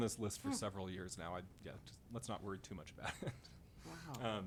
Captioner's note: chuckles